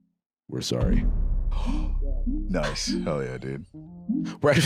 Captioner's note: gasps